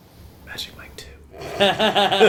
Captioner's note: laughter